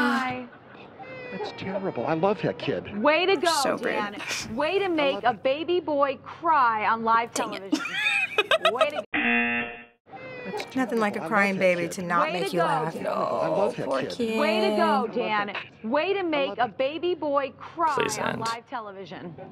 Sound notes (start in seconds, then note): 1.0 baby cries; 4.3 snickers; 7.7 giggles; 9.3 buzzer